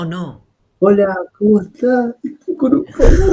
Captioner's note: Spanish